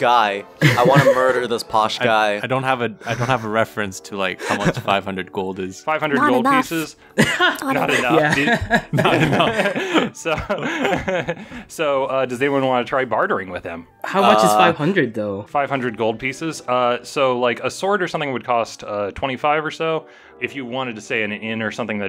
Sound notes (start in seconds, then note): 7.2 laughter